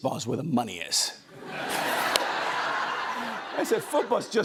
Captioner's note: laughter